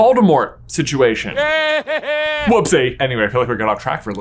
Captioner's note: Voldemort laughing